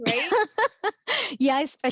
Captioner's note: laughs